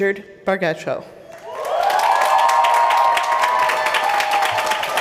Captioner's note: applause